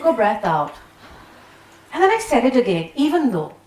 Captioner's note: people exhaling